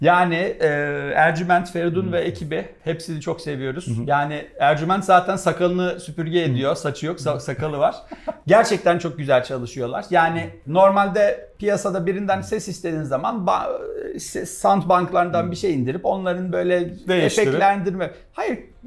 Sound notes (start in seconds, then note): 7.8 laughs